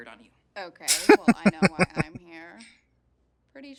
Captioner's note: laughing